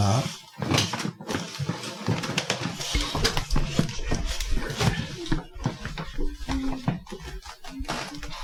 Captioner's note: table creaking, breaking